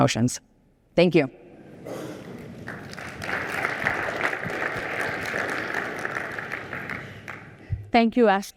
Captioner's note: applause